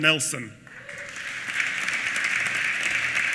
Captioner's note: applause